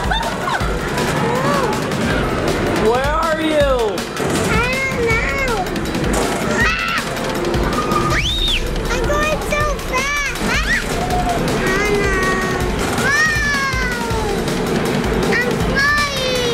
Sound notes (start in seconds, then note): 0.0 laughter; 6.7 screaming; 10.7 screaming